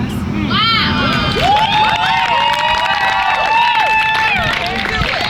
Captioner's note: audience cheers and claps